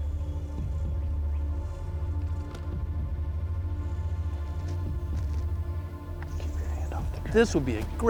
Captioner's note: whispering